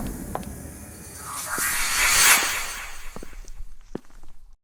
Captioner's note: soft magical chime, accompanied by deep feline footsteps and low purring; final magical chime